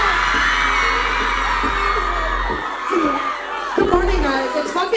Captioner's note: fans screaming